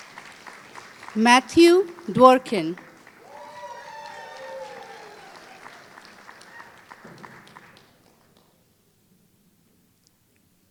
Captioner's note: applause